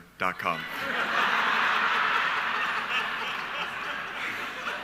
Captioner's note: audience laughing